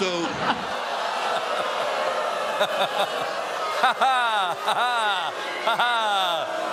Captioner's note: audience reacts